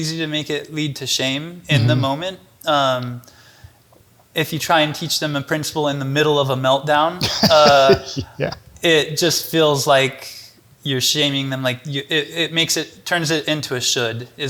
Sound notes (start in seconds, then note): 7.2 chuckles